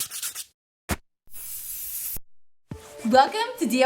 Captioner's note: scratching